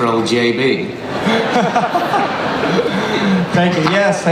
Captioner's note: laughter